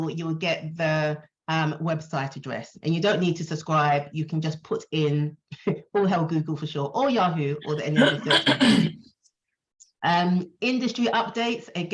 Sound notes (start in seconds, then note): 7.9 throat clearing